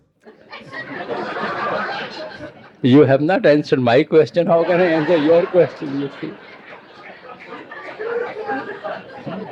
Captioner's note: laughter